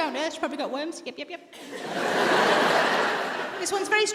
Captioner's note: audience laughs